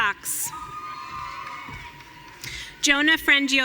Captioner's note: audience cheering